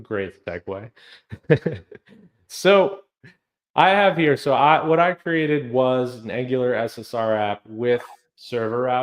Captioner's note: laughs